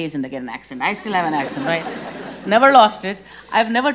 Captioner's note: audience laughs